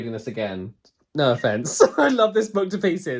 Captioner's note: laughs